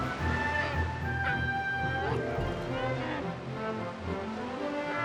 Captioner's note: cubs growling